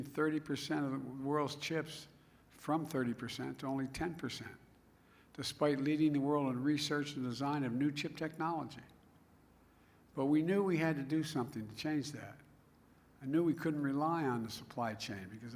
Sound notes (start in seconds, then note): none